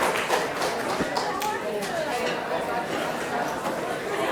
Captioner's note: audience chattering